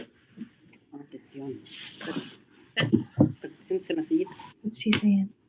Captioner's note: speaking in a foreign language